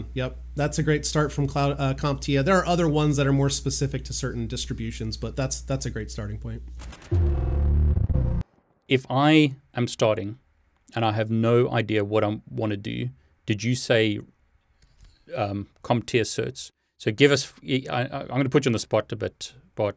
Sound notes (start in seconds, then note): 6.6 electric sound